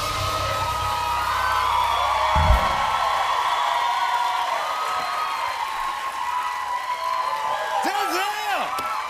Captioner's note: cheers and applause